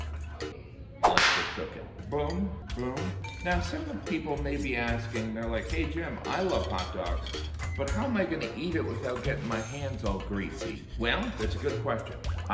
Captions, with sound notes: (whip cracking) Let's Get Cookin' Boom Boom Now some of the people may be asking, they're like, "Hey Jim, I love hot dogs, but how am I gonna eat it without getting my hands all greasy?" Well, it's a good question.